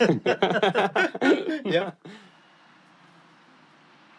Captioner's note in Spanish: Ambos se ríen